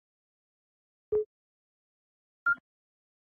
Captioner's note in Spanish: Pitido